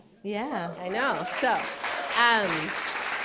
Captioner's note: applause